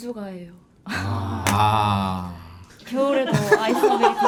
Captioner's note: sighing heavily